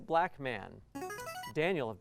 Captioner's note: buzzer